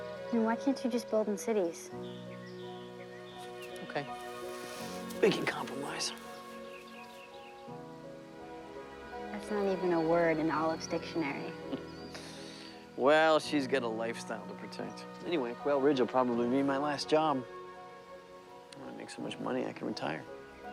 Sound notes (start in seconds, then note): 13.1 chuckles